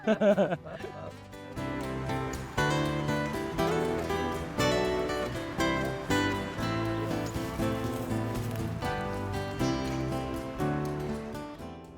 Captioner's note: laughter; soft breeze